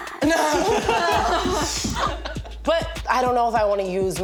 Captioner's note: all laughing